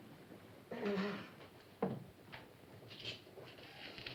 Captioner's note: sobbing